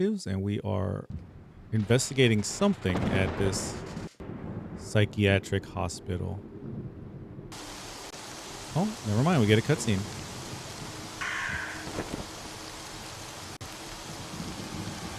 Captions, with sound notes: and we are investigating something at this psychiatric hospital. (static crackling) Oh, nevermind, we get a cutscene. (screeching)